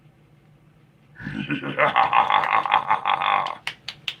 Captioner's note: evil laughing